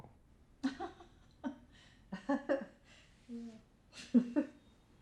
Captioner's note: Patricia chuckling